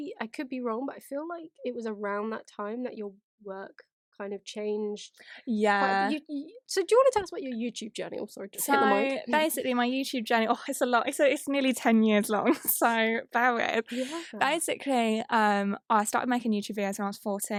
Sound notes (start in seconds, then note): 9.0 laughs; 13.9 laughs